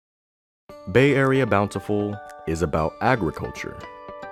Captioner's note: voiceover